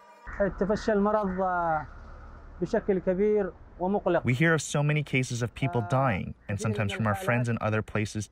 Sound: through translator

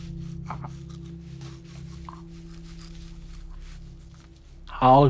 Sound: brush quietly swishing

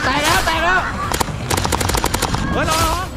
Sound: gunshot firing

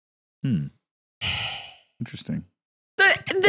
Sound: sighs

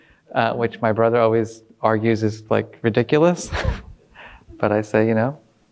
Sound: laughs

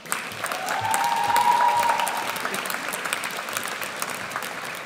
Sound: audience cheers

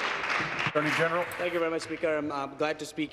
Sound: applause

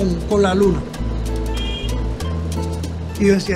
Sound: horn honks

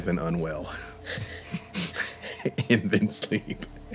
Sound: laughing

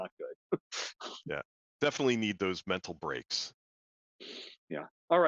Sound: laughs

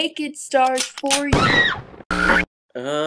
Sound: shotgun pumps and fires

